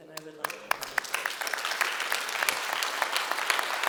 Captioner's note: applause